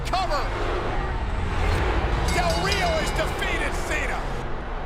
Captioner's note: bell ringing